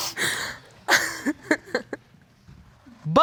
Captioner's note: snickers